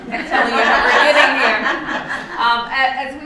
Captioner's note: laughter